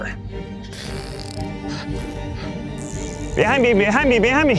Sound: fart noises

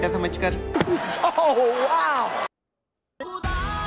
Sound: le smack

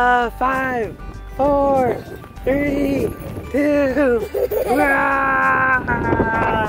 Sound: children laughing

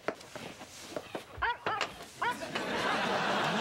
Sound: dog barking

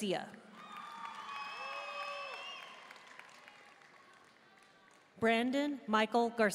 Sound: audience cheering and applauding

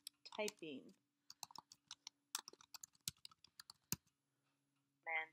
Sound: typing noises

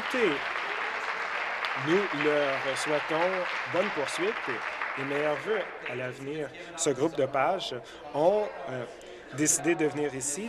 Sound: applause

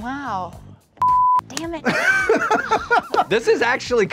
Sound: beep; host laughing

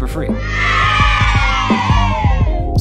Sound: crowd cheering

